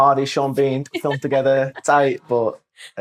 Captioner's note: laughter